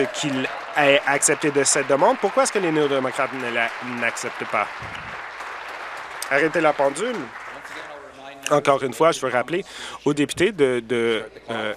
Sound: applause

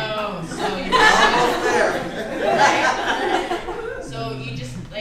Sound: laughter

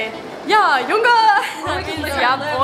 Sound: speaking foreign language

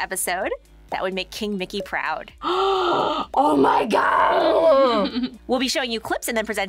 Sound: gasps

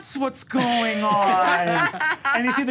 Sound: laughs

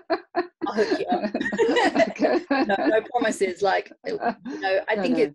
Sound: laughs

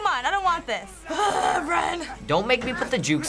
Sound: grumbles

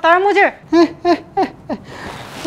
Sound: laughing

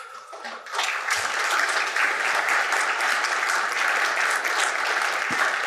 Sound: audience applauding

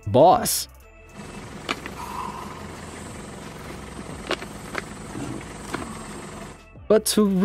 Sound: buffalo snorting; heads thumping

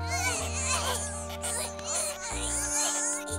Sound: giggling

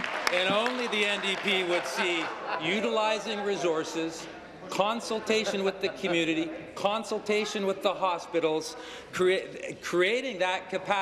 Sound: applause

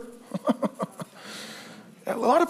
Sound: preacher laughs

